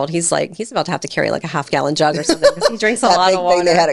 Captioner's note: laughing